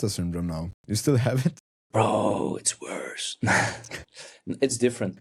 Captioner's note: chuckles